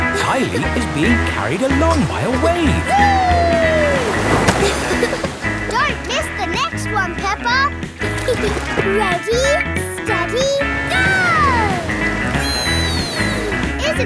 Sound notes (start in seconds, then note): 8.0 giggles